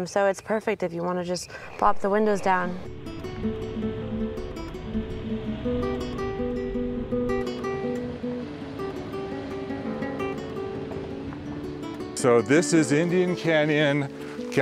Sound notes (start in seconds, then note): 3.1 gentle guitar music; 6.8 car engine